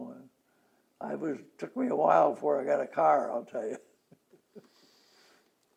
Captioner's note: laughs